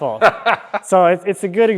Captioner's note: laughing